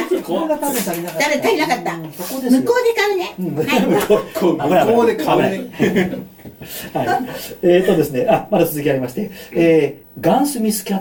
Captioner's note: laughs; laughs